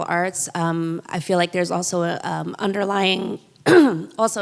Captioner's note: clears throat